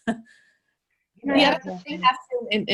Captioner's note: laughs